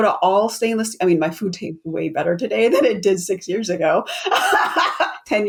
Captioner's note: laughs